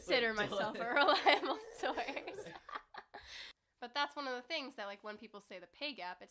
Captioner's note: laughing